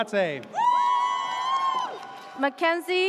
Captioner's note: audience cheers